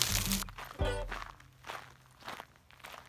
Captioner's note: footfalls